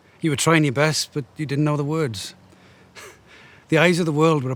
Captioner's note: laughing